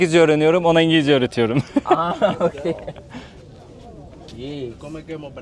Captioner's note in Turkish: kahkaha